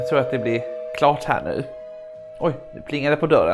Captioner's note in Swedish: Dörrklockan ringer